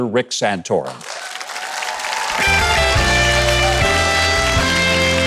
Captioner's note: audience applauding